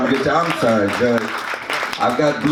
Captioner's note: audience claps